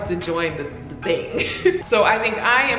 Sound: laughs

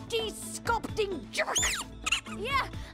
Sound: squeaks

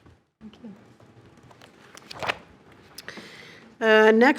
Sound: notebook closes

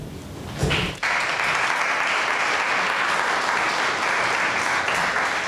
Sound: audience members applaud

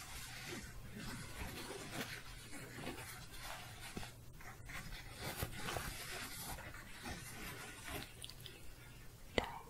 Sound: soft scratching

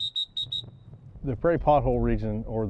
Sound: a whistle blows

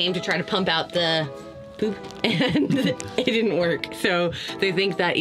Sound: laughs

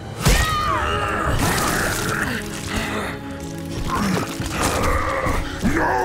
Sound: grunting; groaning

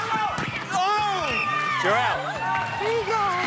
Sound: whistle blows

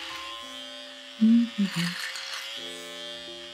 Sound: humming

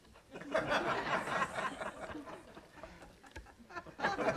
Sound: audience laughing

